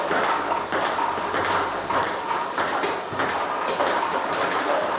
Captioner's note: ball ping pong hitting continues